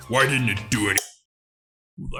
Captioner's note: switch flips